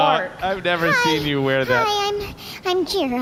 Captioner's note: laughing